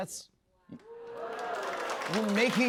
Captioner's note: cheers and applause